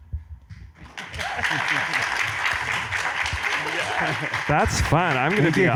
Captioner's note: audience applauds